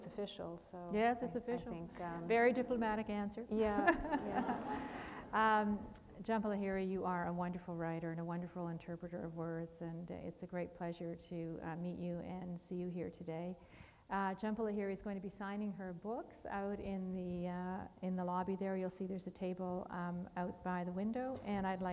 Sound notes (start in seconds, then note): 3.6 laughter